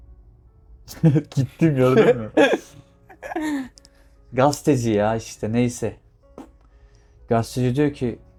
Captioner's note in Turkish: kahkaha